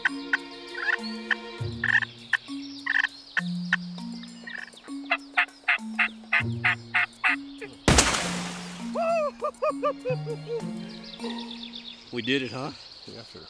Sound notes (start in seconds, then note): 0.0 quirky music; 1.8 turkey calls; 7.8 gunshot; 8.9 whooping